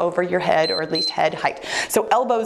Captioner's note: timer beeps